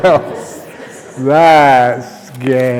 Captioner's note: laughter